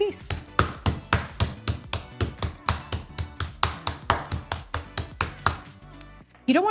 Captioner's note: soft music; mallet thudding